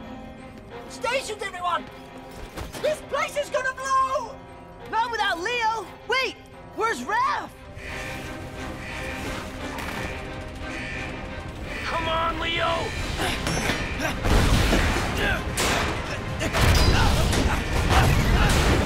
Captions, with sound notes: Stations, everyone! This place is gonna blow! Not without Leo. Wait. Where's Raph? [alarm beeping] Come on, Leo. [grunting, thudding]